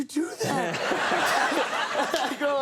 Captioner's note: audience laughing